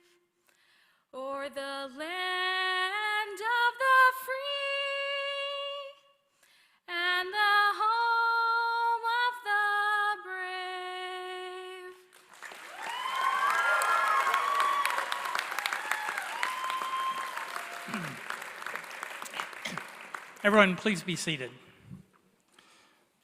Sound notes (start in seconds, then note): 14.0 applause